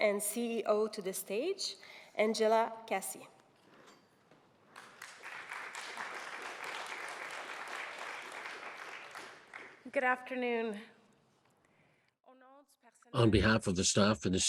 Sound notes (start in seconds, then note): 4.7 audience applauds